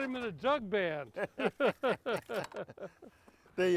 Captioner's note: both laughing